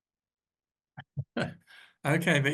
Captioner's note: laughs